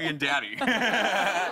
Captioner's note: laughter